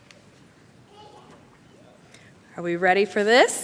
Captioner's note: chatter